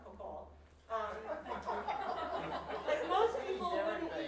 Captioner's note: audience laughs